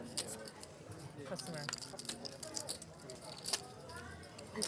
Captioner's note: poker chips clacking